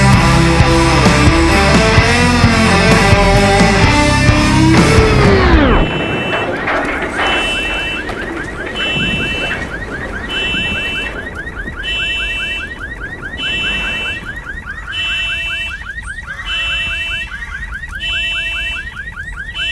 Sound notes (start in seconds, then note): 4.9 explosion booming; 5.1 car horn honking; 5.9 car alarm ringing; 7.0 debris sprinkling; 13.6 crows cawing